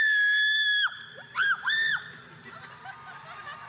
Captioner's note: screams